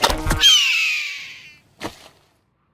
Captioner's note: catapult snapping; gull squawking; body thudding